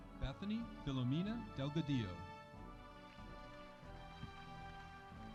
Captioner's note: audience applauding